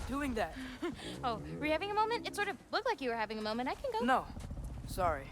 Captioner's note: laugh